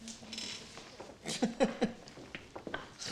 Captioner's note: laughs